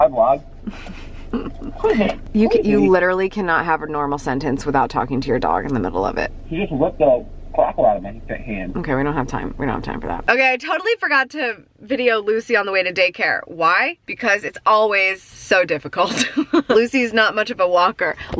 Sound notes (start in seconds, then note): 0.6 laughs; 7.5 rapid speaking; 16.1 laughs